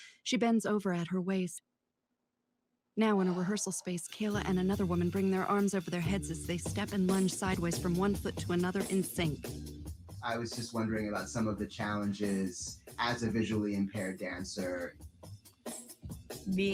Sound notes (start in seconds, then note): none